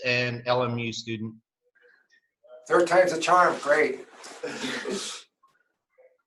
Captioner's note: laughter